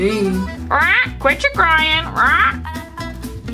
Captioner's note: squawking